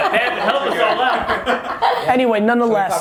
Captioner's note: laughing